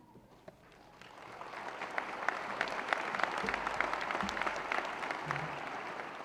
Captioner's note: applause